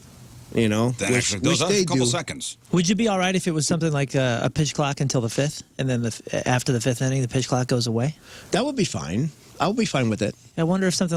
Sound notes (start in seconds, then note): none